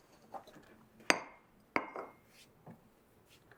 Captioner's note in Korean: 차잔 내려놓는 소리